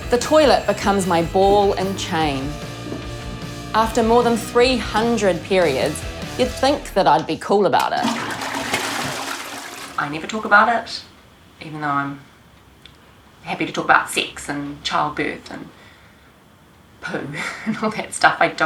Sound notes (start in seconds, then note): 7.8 toilet flushes